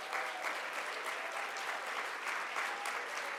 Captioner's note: audience claps